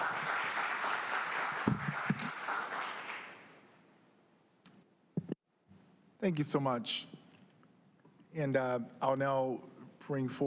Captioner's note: applause